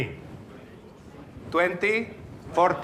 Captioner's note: audience chattering